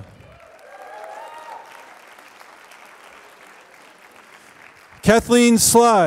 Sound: applause

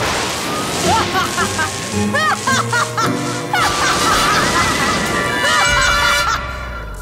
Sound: evil laugh

